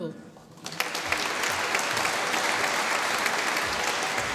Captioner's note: applause